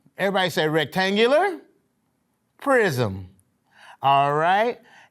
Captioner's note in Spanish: none